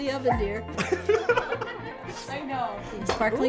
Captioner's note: people laughing